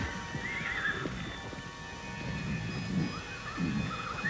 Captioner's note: horses neighing